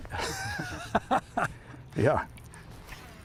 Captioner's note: laughs